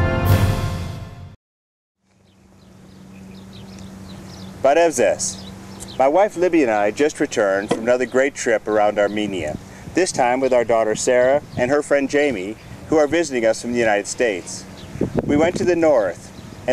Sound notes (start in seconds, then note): 5.5 armenian